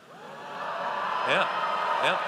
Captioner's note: audience cheers